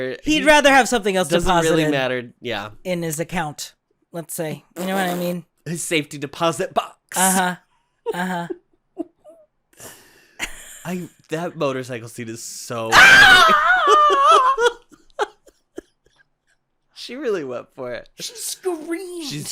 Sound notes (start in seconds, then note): 5.1 splutters; 9.0 quiet chuckle; 15.0 delighted chuckle